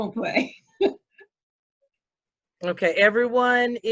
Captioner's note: laughs